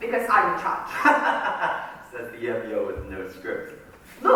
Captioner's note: laughs